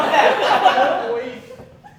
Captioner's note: laughter